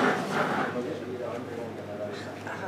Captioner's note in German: Rauschen